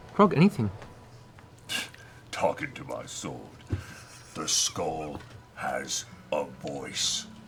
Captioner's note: scoffs